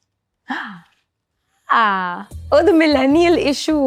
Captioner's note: gasps